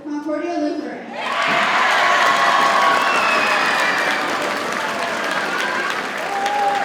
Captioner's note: audience cheers and applauds